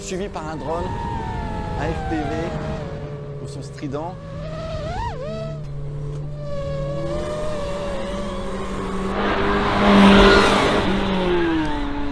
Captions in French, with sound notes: Poursuivie par un drone, un FPV. Au son strident. [Bruit d’hélices] [Bruit d’hélices] [Vrombissement du moteur]